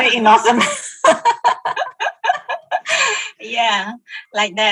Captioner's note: laughing